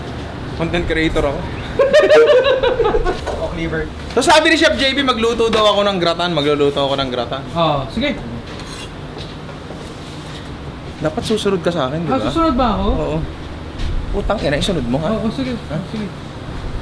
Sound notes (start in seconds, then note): 1.6 laughter